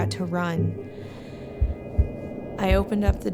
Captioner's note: inhales